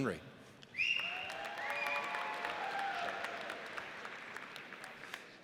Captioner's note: audience cheers